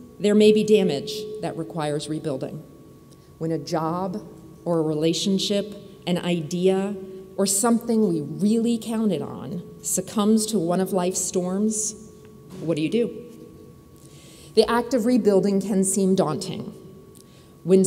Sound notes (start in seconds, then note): none